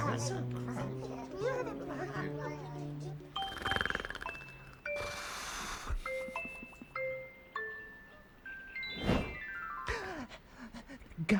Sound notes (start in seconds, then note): 0.0 animals mumbling again; 3.4 Ponder snores; 8.9 nyyyoom; 9.6 Ponder gasps